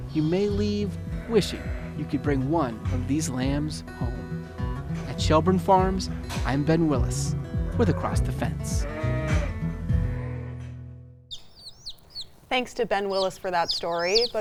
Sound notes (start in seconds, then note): 8.8 sheep baaing; 9.2 country music